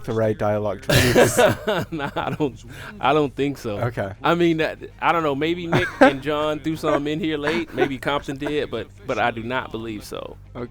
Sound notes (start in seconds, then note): 0.9 laughter